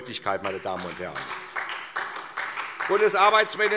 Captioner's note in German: Beifall SPD